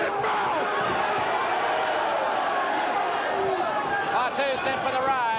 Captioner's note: crowd chatter